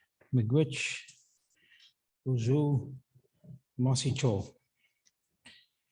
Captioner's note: speaking Anishinaabemowin